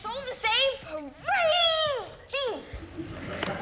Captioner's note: laughter